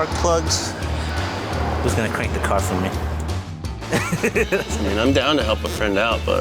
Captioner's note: laughs